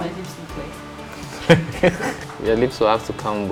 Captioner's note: laughs